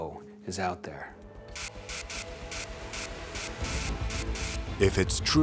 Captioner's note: static buzzing